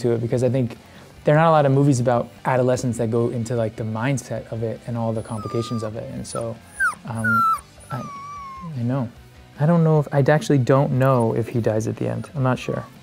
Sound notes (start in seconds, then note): 5.0 puppy whimpers